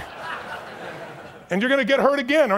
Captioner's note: audience chuckles